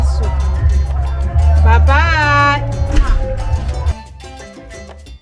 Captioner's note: kisses